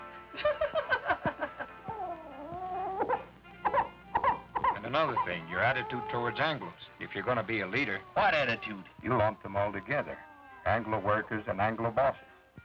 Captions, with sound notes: [laughter] [baby crying] And another thing-- your attitude towards Anglos. If you're going to be a leader-- What attitude? You lump them all together, Anglo workers and Anglo bosses.